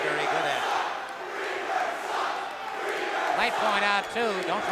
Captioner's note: crowd cheering